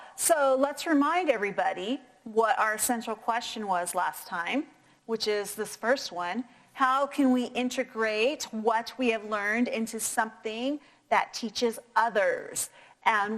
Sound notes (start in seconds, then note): none